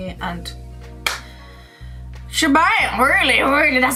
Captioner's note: claps